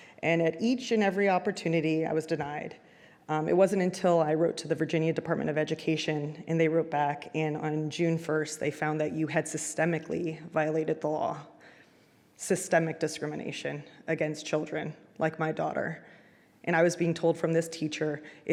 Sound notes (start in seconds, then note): none